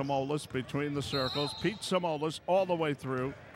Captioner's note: whistle blows